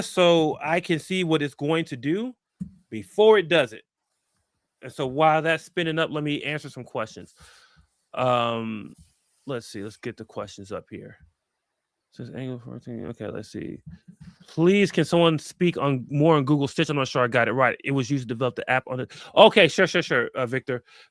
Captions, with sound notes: so I can see what it's going to do before it does it. And so while that's spinning up, let me answer some questions. Let's see. Let's get the questions up here. [MUMBLES] OK, let's see. "Please can someone speak more on Google Stitch? I'm not sure I got it right. It was used to develop the app on--" OK. Sure, sure, sure, Victor.